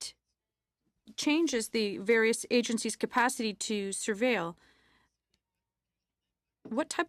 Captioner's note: speaking in french